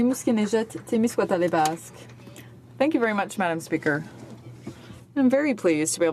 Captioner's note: speaking French